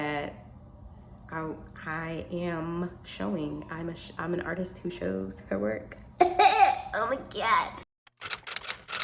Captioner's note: gagged